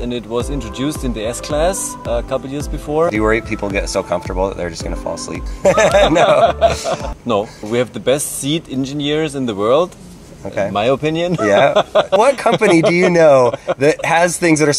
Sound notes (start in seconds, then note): 5.6 both laughing; 11.3 laughs